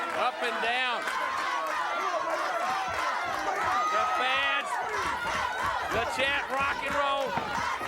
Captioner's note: applause